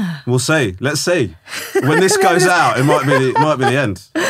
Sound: laughing

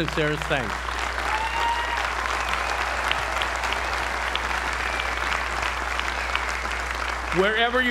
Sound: applause

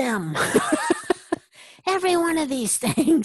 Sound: laugh

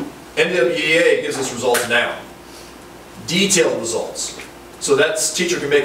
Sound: snaps

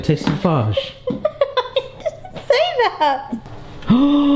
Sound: laughing

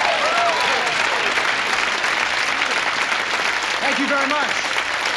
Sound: audience applauds

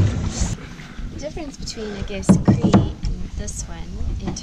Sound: objects rattle

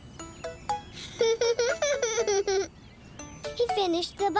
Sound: giggle

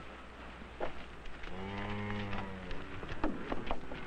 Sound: concerned mooing

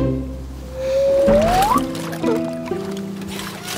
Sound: splash

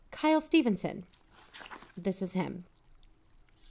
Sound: paper flip

